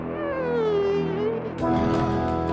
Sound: dramatic music plays; finger squeaks; upbeat music plays

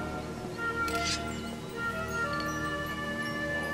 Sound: sword unsheathing

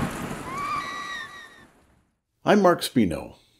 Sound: victim screaming

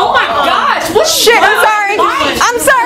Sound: people yelling angrily

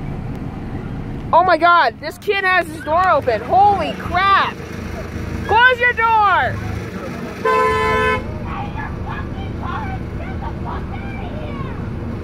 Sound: honk!!!!

